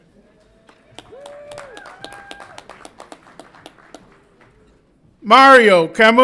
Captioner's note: audience applauds and cheers